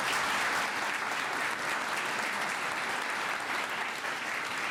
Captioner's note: applause